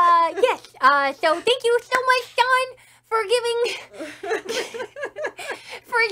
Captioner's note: laughs; laughs harder